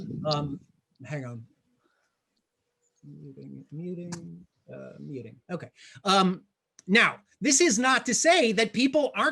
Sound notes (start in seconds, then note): 3.2 faintly speaking